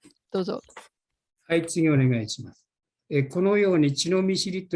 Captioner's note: speaking japanese; speaking japanese